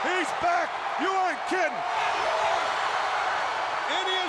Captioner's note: audience cheering